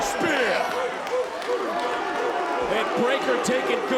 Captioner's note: crowd barking